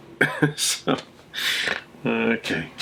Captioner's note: laughing